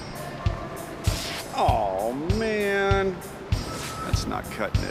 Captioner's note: fabric rips